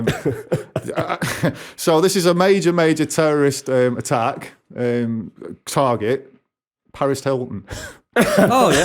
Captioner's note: laughter